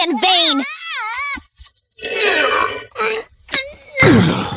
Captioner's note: groaning